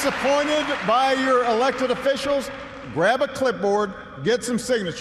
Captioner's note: applause